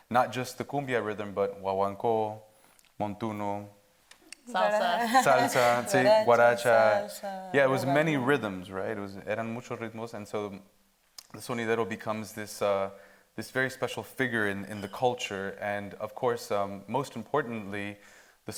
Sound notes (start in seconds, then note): 9.4 speaks Spanish